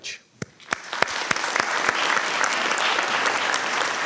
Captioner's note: applause